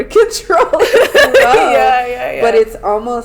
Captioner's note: laughter